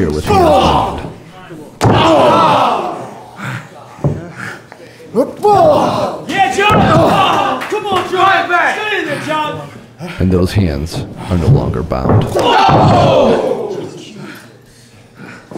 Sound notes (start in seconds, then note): 1.9 audience cheering; 12.3 audience cheering